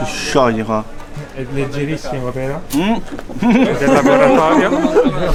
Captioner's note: laughter